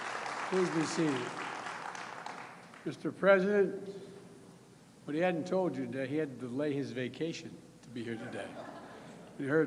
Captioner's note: applause